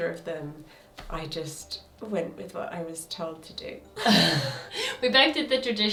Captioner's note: laughs